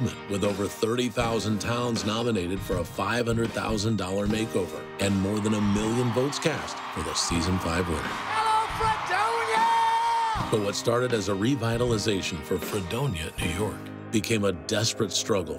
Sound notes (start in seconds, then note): 4.9 cheering